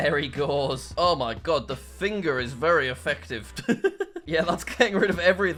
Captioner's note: laughs